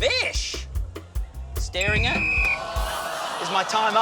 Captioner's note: blows whistle